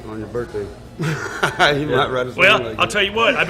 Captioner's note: laughs